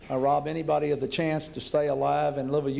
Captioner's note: none